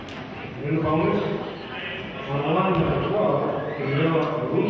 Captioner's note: murmurs